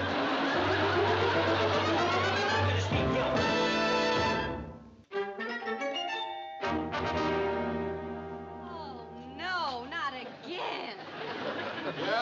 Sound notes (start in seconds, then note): 4.3 dramatic music; 5.4 doorbell rings